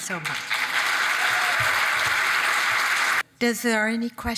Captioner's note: audience applauding and cheering